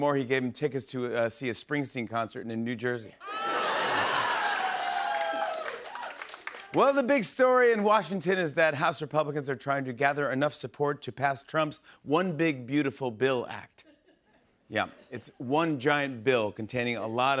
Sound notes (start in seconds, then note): 3.2 laughter, cheers, applause